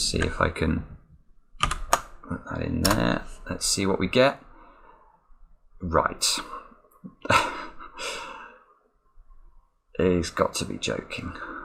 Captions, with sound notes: Let me just see if I can put that in there. Let's see what we get. Right (laughs). It's got to be joking.